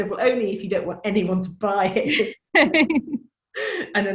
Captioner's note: laughs